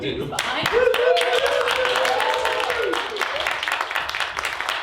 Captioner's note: group applauding